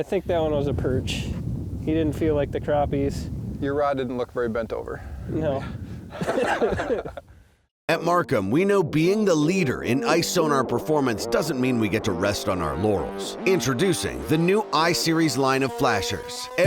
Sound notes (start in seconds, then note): 6.1 both laughing; 7.9 voiceover